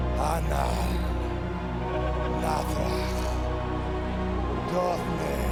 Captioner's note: Undertaker speaking in tongues